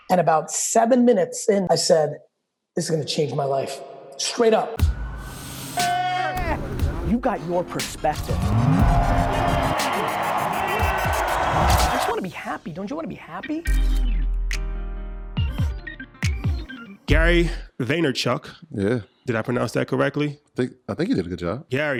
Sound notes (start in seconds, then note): 5.3 people applauding; 5.3 plane engine revving; 10.1 audience applause; 13.5 upbeat music